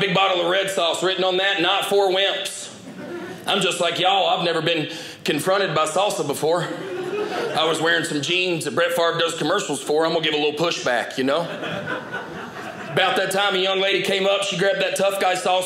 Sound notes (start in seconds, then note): 11.4 audience laughing